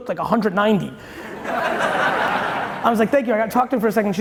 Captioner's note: audience laughing